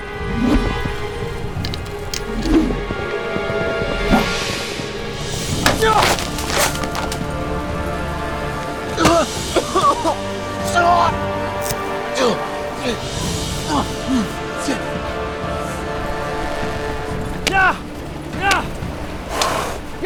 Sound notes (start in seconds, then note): 6.2 gasps; 10.8 coughing / grunt